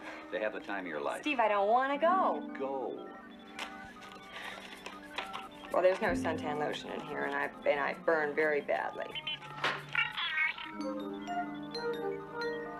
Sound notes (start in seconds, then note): none